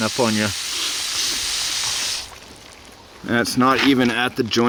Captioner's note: water running